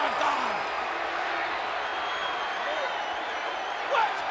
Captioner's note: crowd yelling